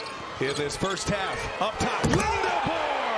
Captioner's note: crowd noise; cheers and applause